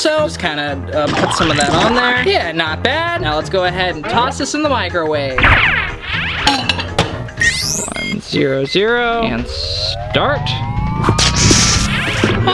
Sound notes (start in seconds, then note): 5.2 show tunes music; 7.3 buttons beep